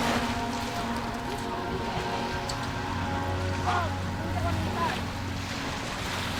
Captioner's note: suspenseful music; waves crashing